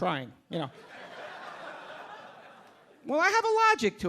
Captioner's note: audience laughing